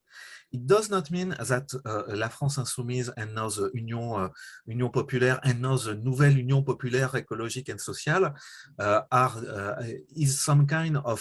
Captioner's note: french